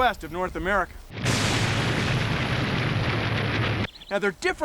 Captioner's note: booming